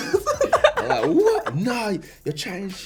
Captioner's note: laughing